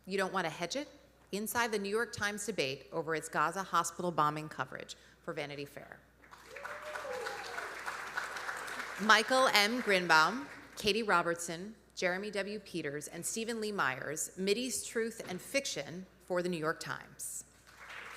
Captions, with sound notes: "You Don't Want to Hedge It?: Inside the New York Times Debate Over Its Gaza Hospital Bombing Coverage," for Vanity Fair. (audience cheering) (audience applauding) Michael M. Grynbaum, Katie Robertson, Jeremy W. Peters, and Steven Lee Myers, "Mideast Truth and Fiction," for The New York Times.